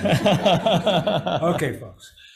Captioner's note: laughter